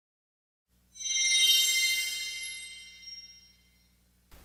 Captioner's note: windchimes